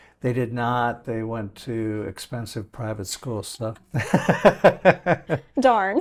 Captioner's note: laughing